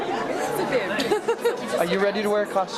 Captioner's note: laughs